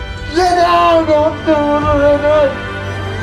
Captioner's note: shouting